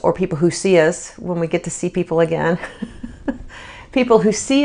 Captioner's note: chuckles